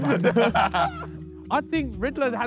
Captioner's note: Sidemen laugh